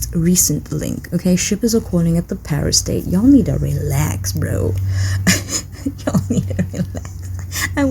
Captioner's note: Laughs in Taekook Married